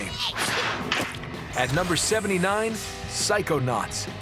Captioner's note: sneezes; splat